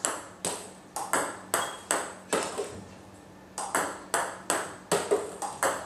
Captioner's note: ball ping pong hitting continues